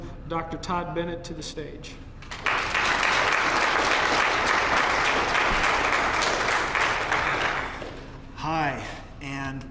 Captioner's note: applause